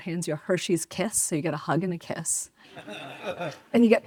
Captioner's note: audience laughs